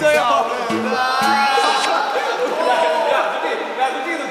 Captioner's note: smack